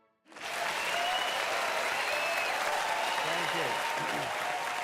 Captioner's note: audience applauding